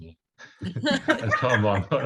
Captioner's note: laughter